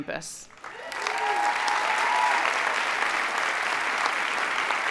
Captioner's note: audience applauding